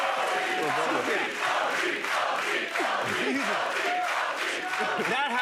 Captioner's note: chanting